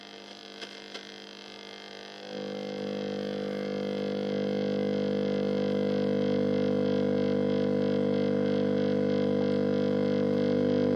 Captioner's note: slightly pulsating 50Hz hum